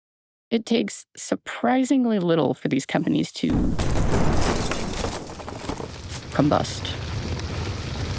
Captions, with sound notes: It takes surprisingly little for these companies to-- (explosion) --combust.